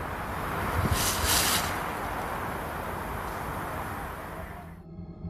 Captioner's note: leaves rustling